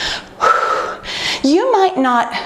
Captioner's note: exhales